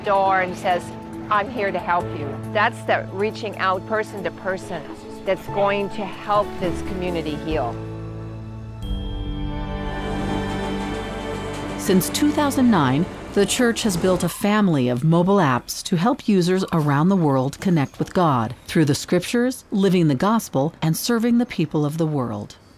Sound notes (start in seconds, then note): 10.0 train rumbling